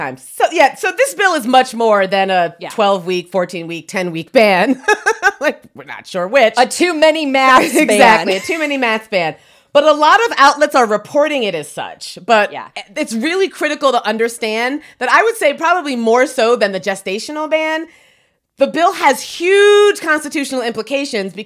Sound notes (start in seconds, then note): 4.7 laughs